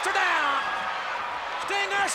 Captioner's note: audience cheers